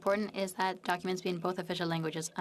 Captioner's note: speaking French